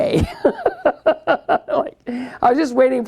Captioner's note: laughs